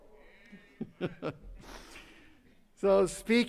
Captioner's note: laughing